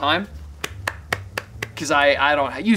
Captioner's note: clapping